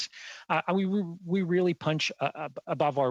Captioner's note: speaking French